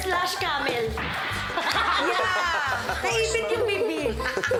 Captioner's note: silly sfx; laughter